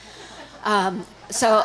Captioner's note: audience laughing